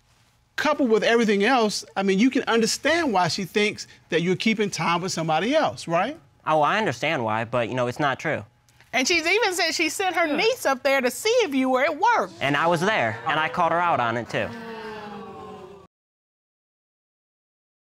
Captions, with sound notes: Coupled with everything else, I mean, you can understand why she thinks that you're keeping time with somebody else, right? Oh, I understand why, but, you know, it's not true. And she's even said she sent her niece up there, to see if you were at work. And I was there. And I called her out on it, too. [audience exclaiming]